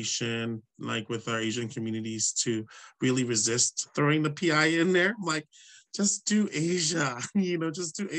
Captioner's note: laughs